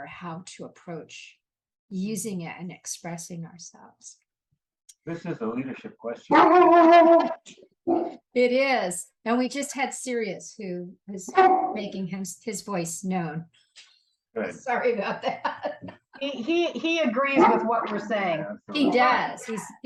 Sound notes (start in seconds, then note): 7.9 dog barking